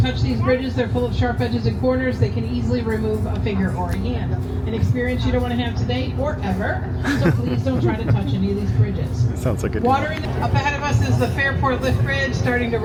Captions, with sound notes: touch these bridges. They're full of sharp edges and corners. They can easily remove a finger or a hand. An experience you don't want to have today or ever. [laughter] So, please don't try to touch any of these bridges. Sounds like a good idea. Up ahead of us is the Fairport Lift Bridge starting